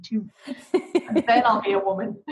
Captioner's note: laughing